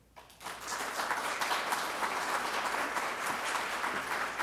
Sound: applause

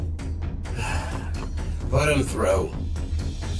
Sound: sighs

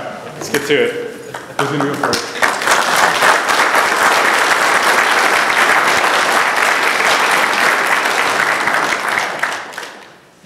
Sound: applause

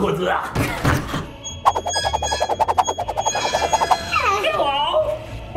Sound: handle whooshes

